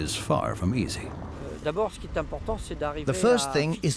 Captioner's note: speaking French